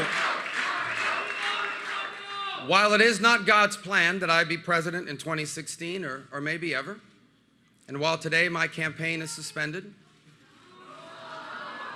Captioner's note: chanting rubio